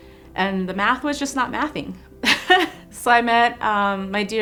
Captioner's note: laughs